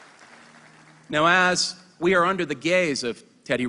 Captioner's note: applause